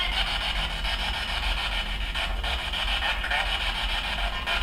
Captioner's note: spirit box talking; static buzzing